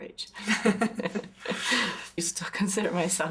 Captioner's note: both laugh